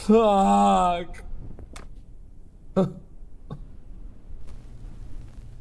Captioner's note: sobs